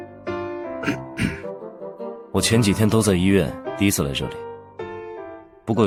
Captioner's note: cough